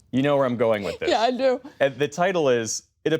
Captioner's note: laughter